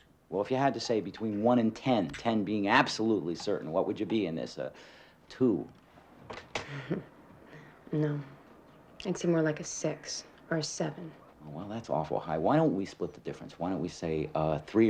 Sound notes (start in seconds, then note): 6.4 laughs sarcastically